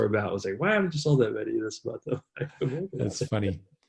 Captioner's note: laughs